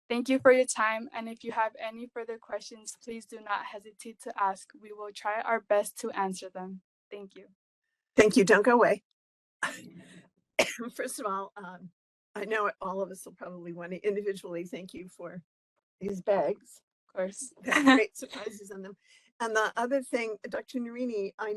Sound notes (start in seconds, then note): 9.3 laugh; 10.6 cough